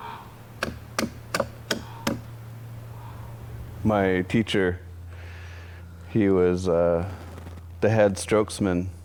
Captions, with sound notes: (tool banging) My teacher, he was the head strokes man.